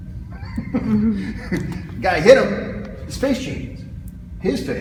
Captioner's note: chuckles